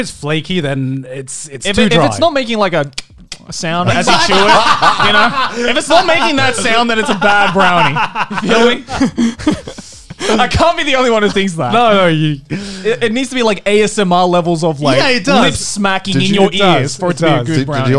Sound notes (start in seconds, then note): 5.0 laughing; 11.8 mumbling